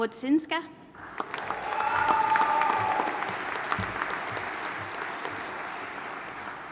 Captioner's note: audience applauding and cheering